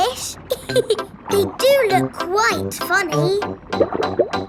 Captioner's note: laughs